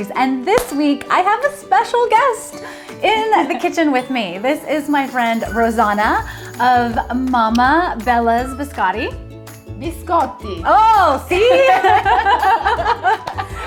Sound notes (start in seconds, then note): 10.0 with Italian accent; 11.4 laughter